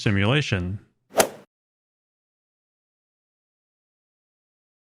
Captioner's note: golf swing sound effect